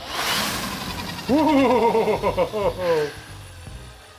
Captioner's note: power drill whirring; laughs